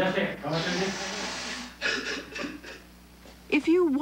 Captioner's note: speaking Japanese; man sobbing